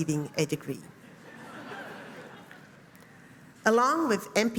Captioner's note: laughing